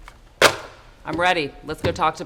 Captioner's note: phone receiver thuds